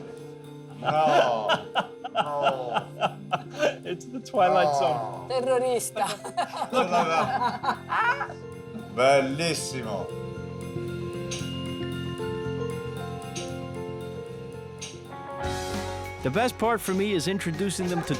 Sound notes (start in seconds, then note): 0.7 chuckling; 5.9 all laughing